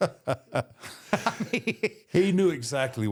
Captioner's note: The Undertaker laughs; chuckles